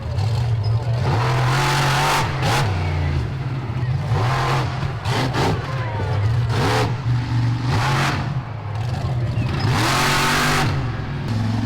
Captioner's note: monster Truck Engine Sounds